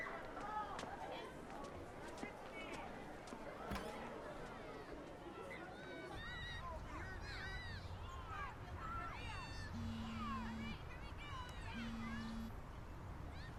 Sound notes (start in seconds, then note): 3.5 door creaks; 5.4 indistinct background chatter; 9.6 phone vibrates